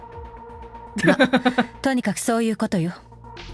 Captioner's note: chuckles